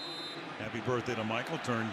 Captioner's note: whistle